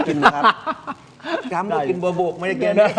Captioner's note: laughs